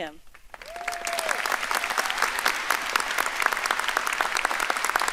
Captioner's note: audience applauding